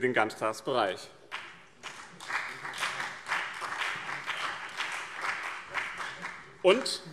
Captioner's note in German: Beifall BÜNDNIS 90/DIE GRÜNEN und CDU